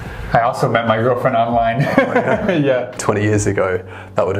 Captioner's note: laughs